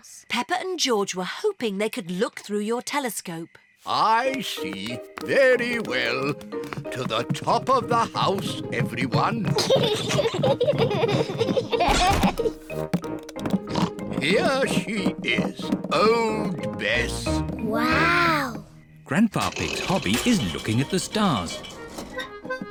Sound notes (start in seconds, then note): 9.2 peppa and george giggling; 13.6 oinks